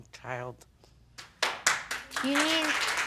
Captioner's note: audience clapping